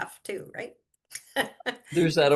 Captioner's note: laughs